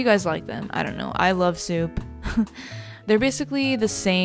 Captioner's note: chuckles